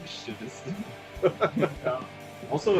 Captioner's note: Смех